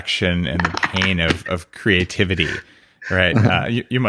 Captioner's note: laughs